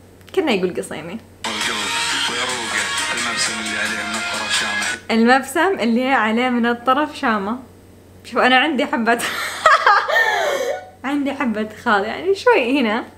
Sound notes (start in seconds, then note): 9.4 hysterical laughter